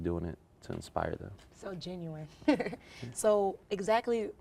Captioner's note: laughs